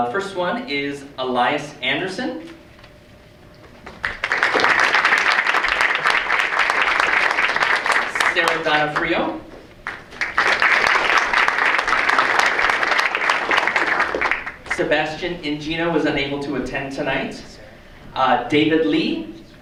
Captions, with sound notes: First one is Elias Anderson. (audience applauds) Sarah Donofrio. (audience applauds) Sebastian Ingino was unable to attend tonight. David Lee.